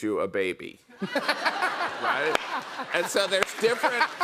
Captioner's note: laughter